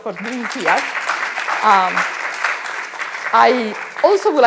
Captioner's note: audience applauding